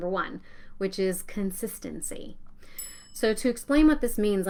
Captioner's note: bell rings